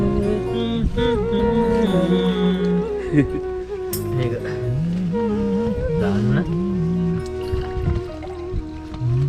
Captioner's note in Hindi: बड़बड़ाते हुए